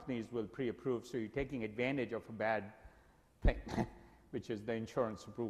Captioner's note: laughs